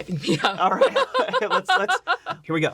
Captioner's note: laughs